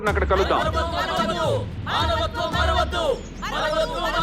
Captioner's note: belligerent sloganeering